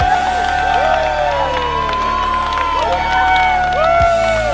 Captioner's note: crowd cheers